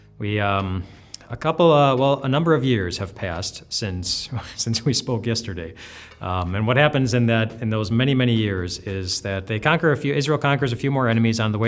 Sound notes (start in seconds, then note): 4.3 laughing